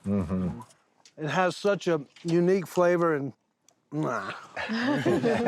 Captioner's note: chewing noisily; everyone laughing